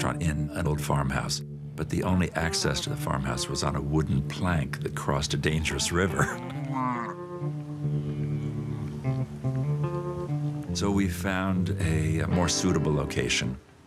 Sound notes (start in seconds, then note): 6.8 cows mooing; 6.8 gentle music